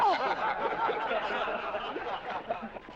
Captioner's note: laughter